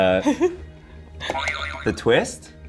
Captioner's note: springing sound